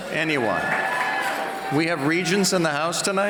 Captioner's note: cheers